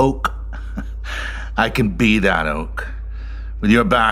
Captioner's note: chuckling